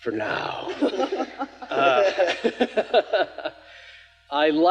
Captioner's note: speakers laughing